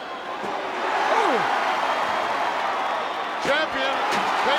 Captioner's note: commentators exclaim